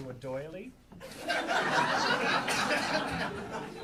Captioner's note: audience laughing